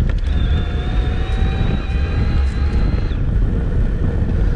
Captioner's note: motor whirring